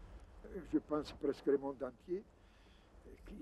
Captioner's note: foreign spoken language